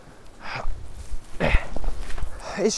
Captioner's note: stoke grunts